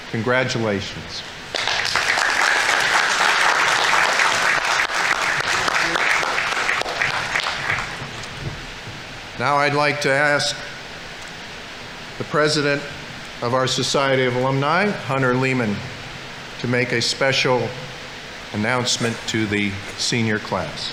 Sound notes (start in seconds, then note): 1.5 audience applauding; 5.0 people chattering